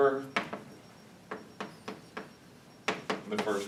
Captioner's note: chalk tapping